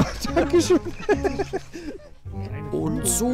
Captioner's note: he laughs